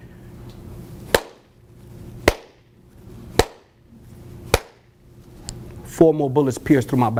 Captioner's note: four claps, silence